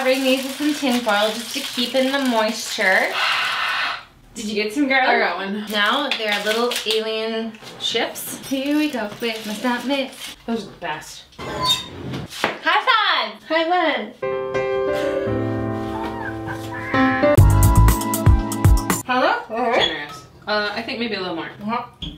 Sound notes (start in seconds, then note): 3.5 breathing out; 14.2 piano music; 17.5 funky music